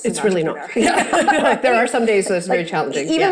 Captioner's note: both laughing